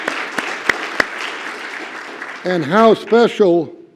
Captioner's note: applause